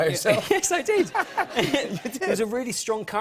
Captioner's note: laughter